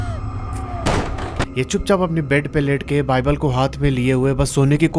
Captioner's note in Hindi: चीखने की आवाज़